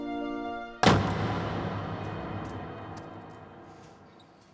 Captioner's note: door slams